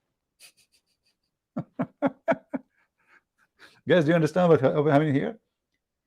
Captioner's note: Ketawa